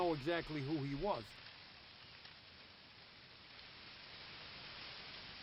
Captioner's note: leaves rustling